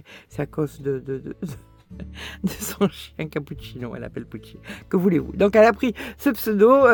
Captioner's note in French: rires